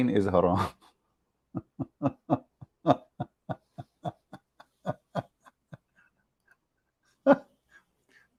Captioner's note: Ketawa